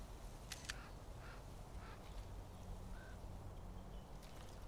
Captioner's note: camera shutter clicks